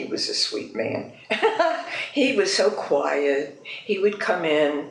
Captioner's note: laughs